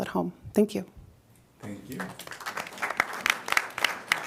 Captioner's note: applause